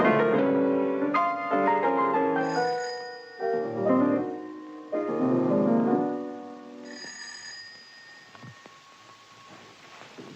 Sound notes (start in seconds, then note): 2.3 door Bell